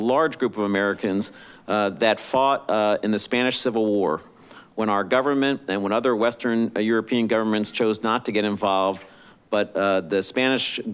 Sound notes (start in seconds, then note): none